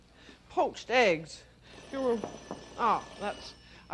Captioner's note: timer rings